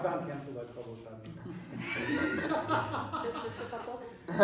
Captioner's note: laughter